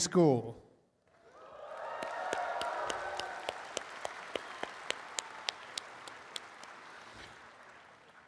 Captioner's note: applause and cheering